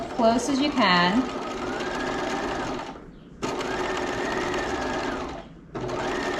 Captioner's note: sewing machine whirling